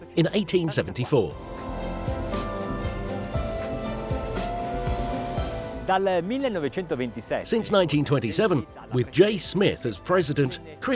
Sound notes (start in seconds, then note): 2.1 bright music; 5.9 speaking Italian